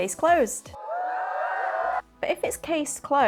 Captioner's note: cheering